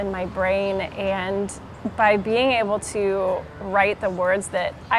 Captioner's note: people chattering faintly